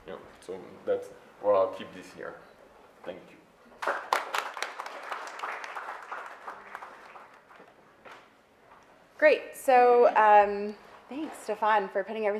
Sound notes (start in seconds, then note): 3.8 audience applauds